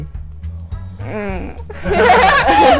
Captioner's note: laughs